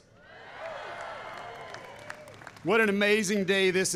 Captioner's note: applause